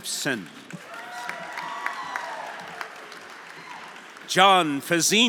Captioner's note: audience applauding; audience cheering